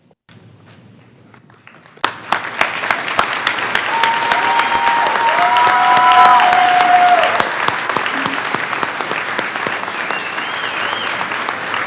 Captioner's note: clapping